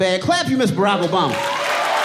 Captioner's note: audience cheering and applauding